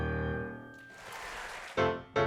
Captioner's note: audience applauding